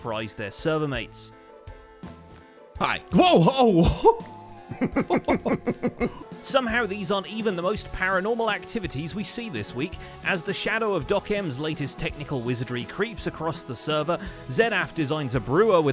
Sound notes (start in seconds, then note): 3.2 nervous laughter